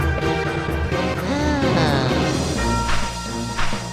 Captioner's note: sigh